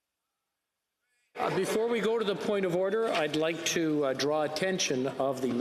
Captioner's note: some Applause